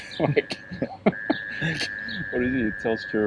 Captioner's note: laughing